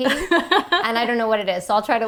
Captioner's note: laughing